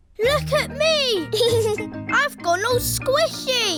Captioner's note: giggles